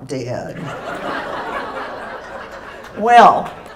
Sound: laughter

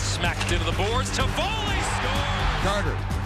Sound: crowd cheering

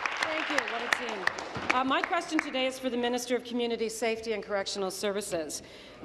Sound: applause

